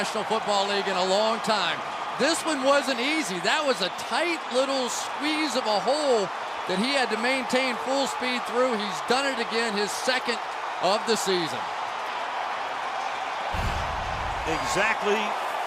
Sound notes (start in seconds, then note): 12.2 crowd cheers